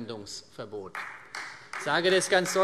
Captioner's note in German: Vereinzelter Beifall CDU - Beifall Freie Demokraten